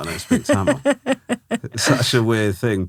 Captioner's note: laughing